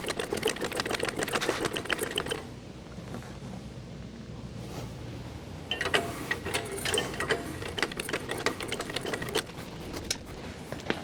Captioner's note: metal Clanking